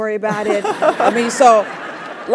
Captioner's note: laugh